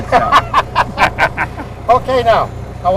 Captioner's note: laughter